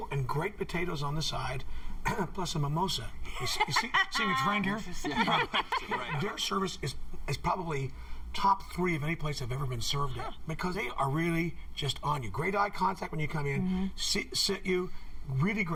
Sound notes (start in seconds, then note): 3.3 laughter